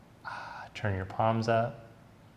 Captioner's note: sigh